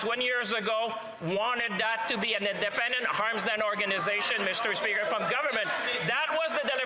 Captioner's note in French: voix de l'interprète